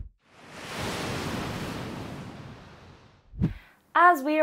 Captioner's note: sound of waves crashing